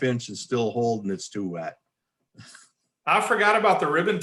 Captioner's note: chuckles